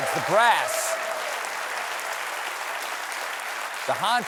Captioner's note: cheers and applause